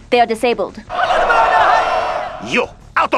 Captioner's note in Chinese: 喧哗